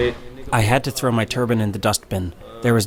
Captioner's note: through translator